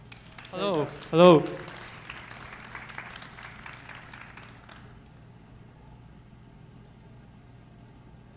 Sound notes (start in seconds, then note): 2.1 audience clapping